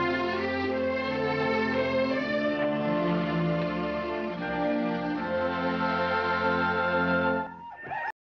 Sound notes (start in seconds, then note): 6.8 whooping